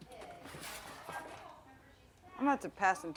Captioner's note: people chattering indistinctly